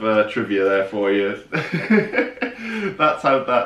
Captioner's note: laughing